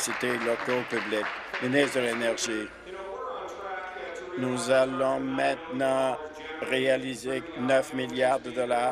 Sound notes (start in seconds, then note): 3.7 applause